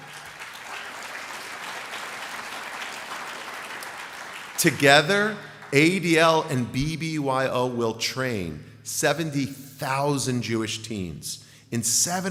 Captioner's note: applause